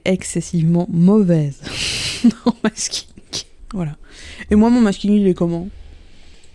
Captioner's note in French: rire